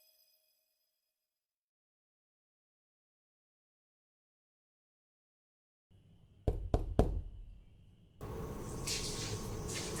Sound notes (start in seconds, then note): 6.5 door knocks